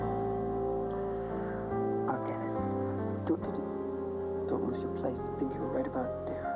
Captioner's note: rings